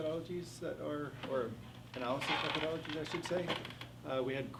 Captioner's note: faintly speaking